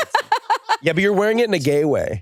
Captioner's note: laughs